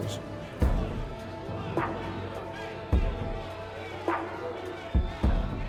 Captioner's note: patrons chatting and calling